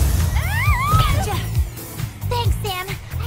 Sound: Clover screaming

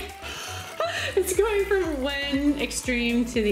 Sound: laughing

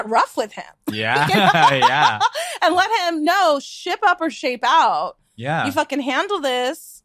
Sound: laughs

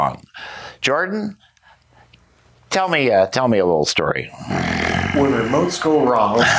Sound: growls

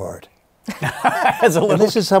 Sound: laughter

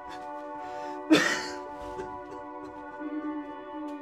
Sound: Gator breaking down crying

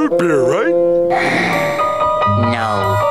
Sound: sighing

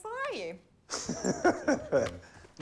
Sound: laughing

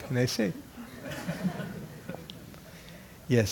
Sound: laugh

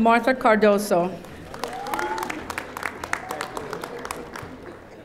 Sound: audience applauding

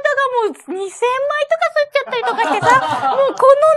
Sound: laughs

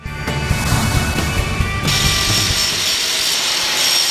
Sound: SFX of grinding

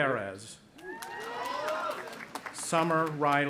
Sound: cheering

